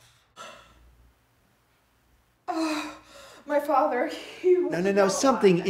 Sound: gasps

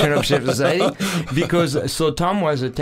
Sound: both laughing

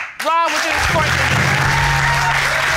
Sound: applause; audience applauding

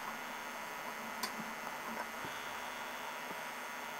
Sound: click

